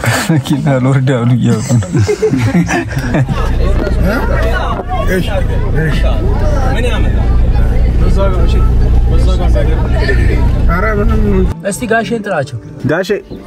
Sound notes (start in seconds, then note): 1.5 laughter; 5.1 crowd noise